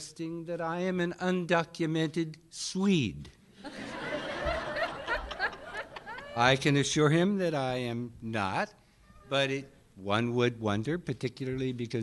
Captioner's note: laughter